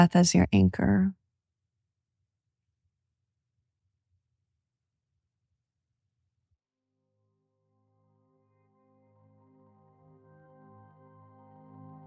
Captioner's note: silence